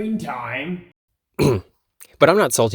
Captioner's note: ahem